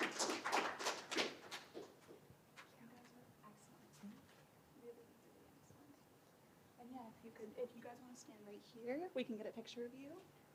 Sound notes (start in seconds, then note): 0.0 applause and cheering; 2.8 indistinct conversation